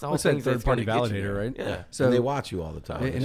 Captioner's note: none